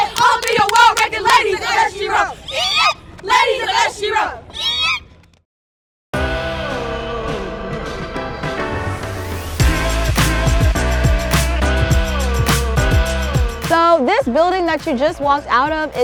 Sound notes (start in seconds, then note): 3.3 group squeals; 8.2 upbeat music